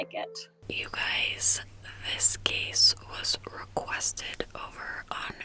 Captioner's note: whispering